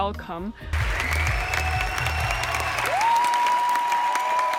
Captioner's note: clapping and cheering